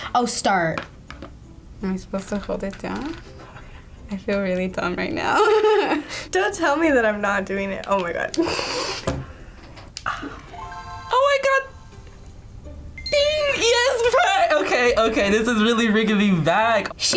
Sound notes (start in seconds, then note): 5.4 laughs; 8.5 laughs; 10.5 Game Boy chimes